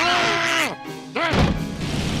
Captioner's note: grunts; duck squeaks